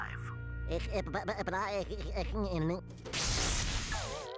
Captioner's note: stuttering